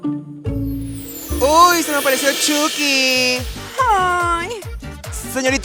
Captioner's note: gay squeal